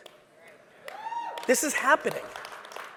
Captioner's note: audience member cheers